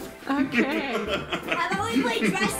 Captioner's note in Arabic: ضحك